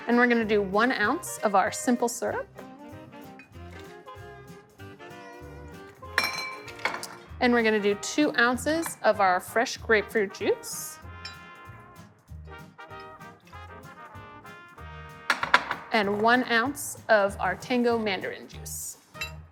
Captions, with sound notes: And we're gonna do one ounce of our simple syrup. (soft upbeat jazzy music) (glass clinking) And we're gonna do two ounces of our fresh grapefruit juice. (soft upbeat jazzy music) (glass clinking) And one ounce of our tango mandarin juice.